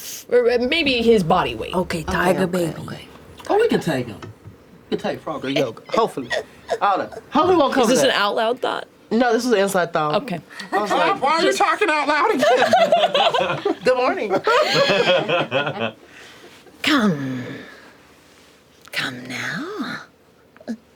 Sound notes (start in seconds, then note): 12.3 laughter; 20.7 snickers